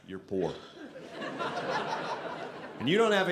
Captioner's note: audience laughing